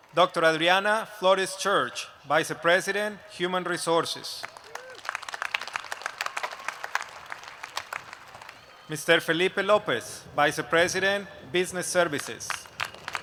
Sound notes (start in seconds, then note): 4.4 applause; 12.2 applause